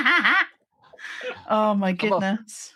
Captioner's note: laughing